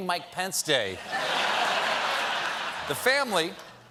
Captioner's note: laughter